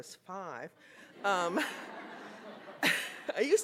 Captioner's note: laughter